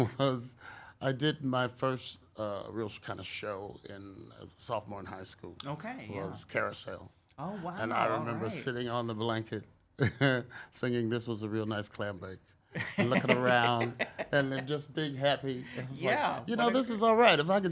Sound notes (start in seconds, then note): 9.8 laughs